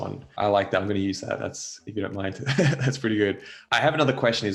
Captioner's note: chuckles